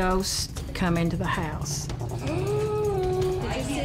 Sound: gasps

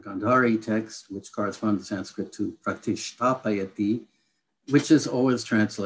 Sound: non-english speech; non-english speech

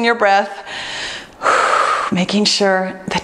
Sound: breathes deeply

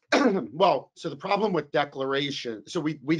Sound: coughs

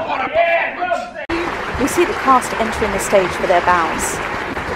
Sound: applause

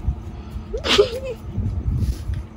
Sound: laughs nervously

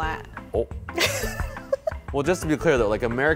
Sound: woman giggles

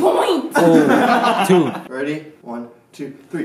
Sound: laughter

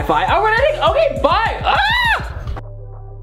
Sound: screams

